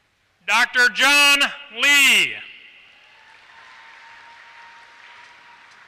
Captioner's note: applause